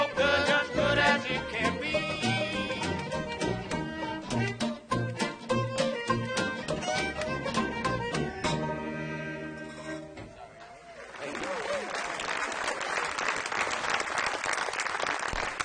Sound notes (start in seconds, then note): 10.6 audience applauds